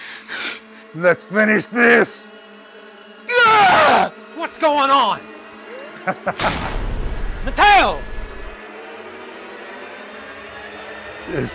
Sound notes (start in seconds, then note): 3.2 Matteo screams; 6.4 zapping; 9.0 suspenseful music